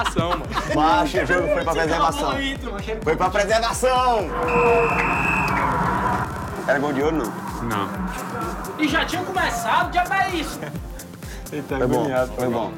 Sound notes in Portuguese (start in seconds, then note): 4.2 soprado apito no jogo